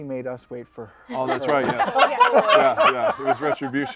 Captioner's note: laughter